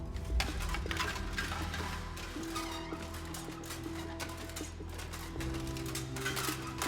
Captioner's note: gentle suspenseful music; armor continues clanking